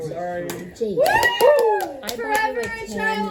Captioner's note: celebratory Whoo's!